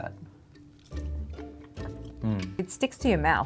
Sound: both chewing

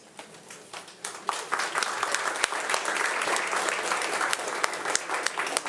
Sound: audience applauding

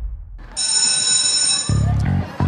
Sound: school bell ringing

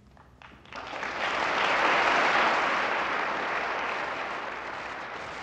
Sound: audience applauding

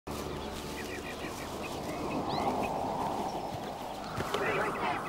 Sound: Bray walking through grass; chanting

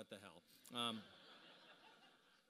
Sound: laughter

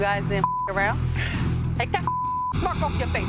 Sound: beep; chuckles; beep

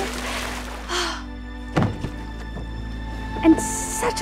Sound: sigh

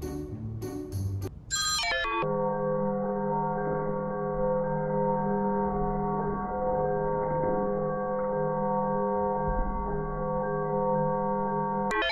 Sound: telephone rings loudly and in slow motion

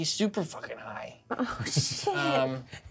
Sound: laughs

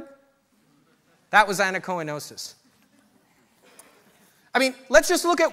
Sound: audience laughter

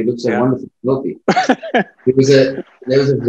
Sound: laughs

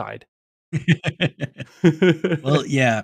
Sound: laughs

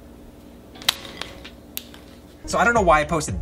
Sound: pop

